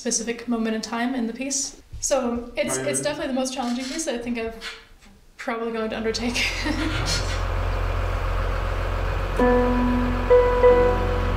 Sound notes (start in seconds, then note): 6.2 laughs